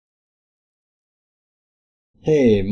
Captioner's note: long intentional silence